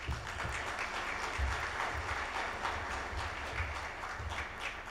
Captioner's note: audience applauds